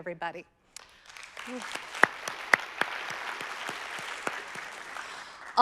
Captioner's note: audience applauding